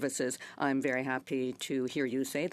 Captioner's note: speaking French